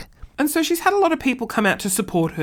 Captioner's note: talking normally